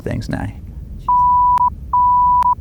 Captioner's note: beep